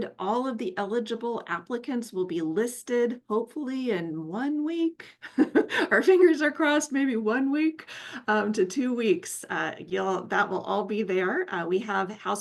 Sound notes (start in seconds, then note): 5.2 chuckles